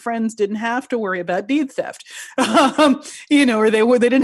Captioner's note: laughing